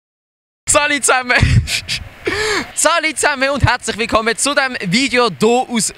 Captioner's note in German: lacht